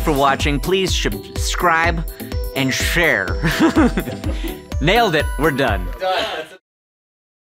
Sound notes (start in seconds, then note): 3.4 laughing